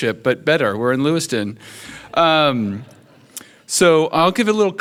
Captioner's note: audience chuckles